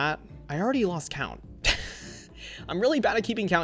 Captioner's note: chuckles